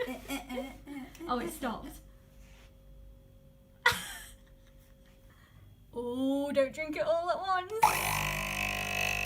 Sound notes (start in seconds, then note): 3.8 laughter